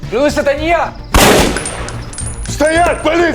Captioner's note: gunshot